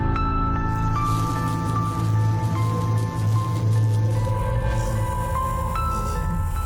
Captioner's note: electrical buzzing